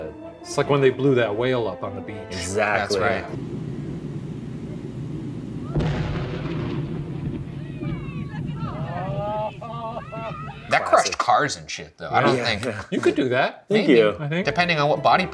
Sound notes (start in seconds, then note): 6.0 explosion; 7.0 distinct chatter